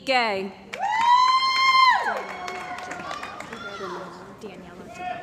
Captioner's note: cheering & Applause